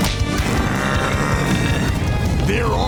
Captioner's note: growling